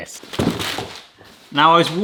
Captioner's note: paper rustles; box thuds